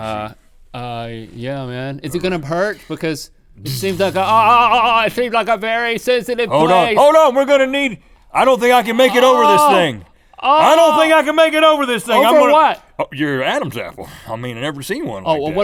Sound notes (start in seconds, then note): 9.0 Link moaning